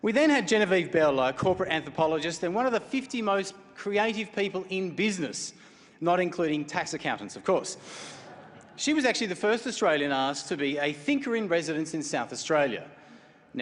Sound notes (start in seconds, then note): 8.0 laughter